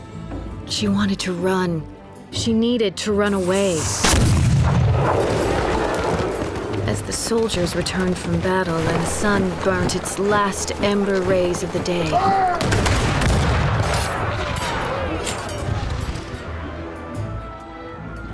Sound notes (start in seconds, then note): 3.6 cannon blast; 12.5 gunfire